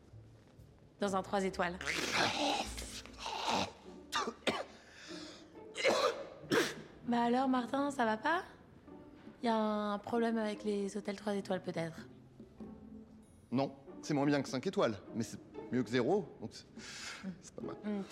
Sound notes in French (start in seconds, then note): 3.1 toux